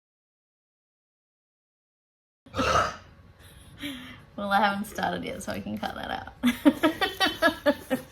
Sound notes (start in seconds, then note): 2.5 massively loud burp; 6.5 chuckles